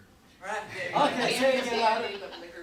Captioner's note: audience laughing